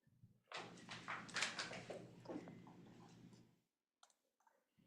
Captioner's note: objects rustling